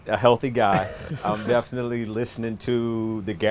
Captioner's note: laughs